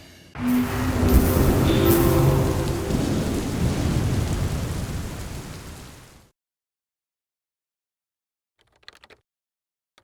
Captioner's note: electrical noises and wind; typing sounds